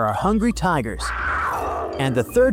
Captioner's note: tigers roaring